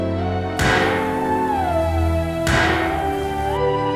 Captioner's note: gunshot